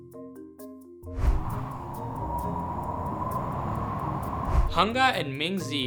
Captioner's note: wind rushing